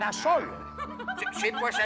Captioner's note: voices, laughs